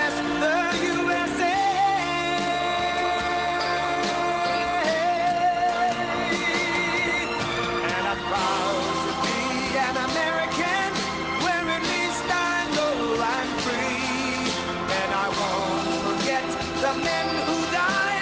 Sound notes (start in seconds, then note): 0.0 cheering and applause